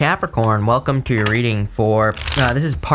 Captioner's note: paper rustling